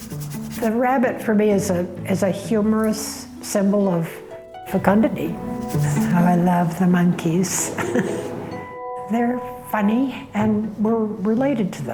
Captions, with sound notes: The rabbit for me is a humorous symbol of fecundity. I love the monkeys. [ Chuckles ] They're funny and we're related to them.